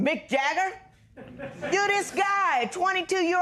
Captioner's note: laughter